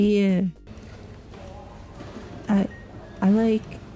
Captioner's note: crowd murmuring